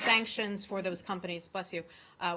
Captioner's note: sneezes